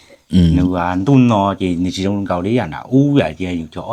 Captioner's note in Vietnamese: hắng giọng